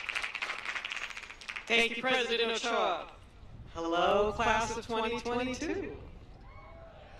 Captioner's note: applause